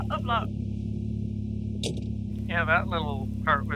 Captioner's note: door opens and closes